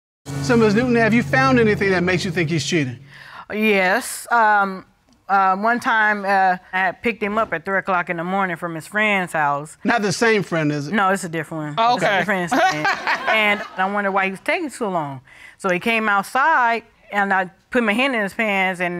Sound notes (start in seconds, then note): 12.5 laughs